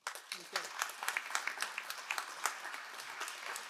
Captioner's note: all applauding